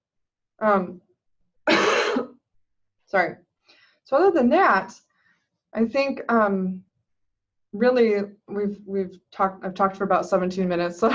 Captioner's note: cough